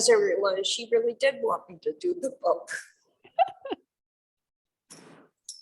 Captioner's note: chuckling